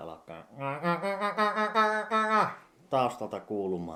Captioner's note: imitates goose